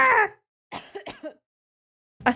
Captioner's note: coughs